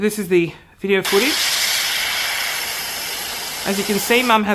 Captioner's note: static